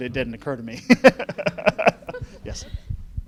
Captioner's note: laughing